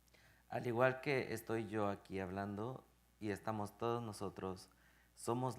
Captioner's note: speaking in Spanish